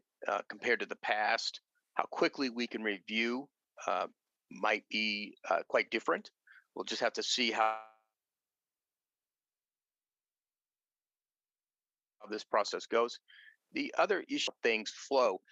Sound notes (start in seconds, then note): 10.3 audio cuts out